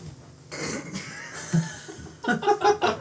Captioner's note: laughter